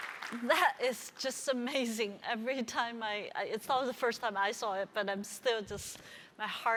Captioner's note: applause